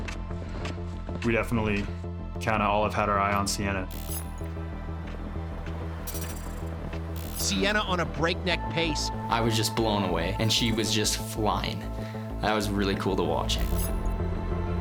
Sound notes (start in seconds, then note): none